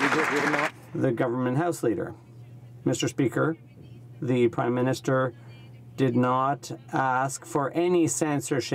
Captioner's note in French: voix de l'interprte